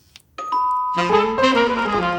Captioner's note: doorbell rings